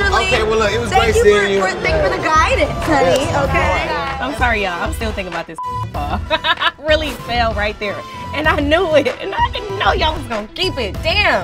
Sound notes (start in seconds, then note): 6.0 laughs